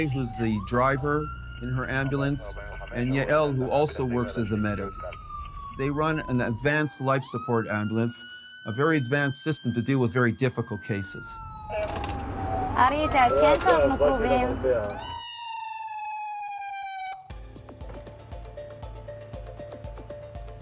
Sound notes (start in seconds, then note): 13.2 speaks foreign language; 17.3 sombre music